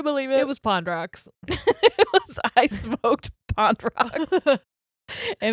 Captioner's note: laughs; laughs